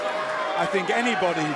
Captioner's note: cheers & boos